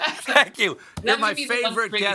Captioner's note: laughter